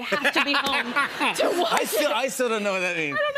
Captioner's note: laughter